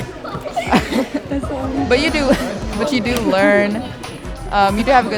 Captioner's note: laughs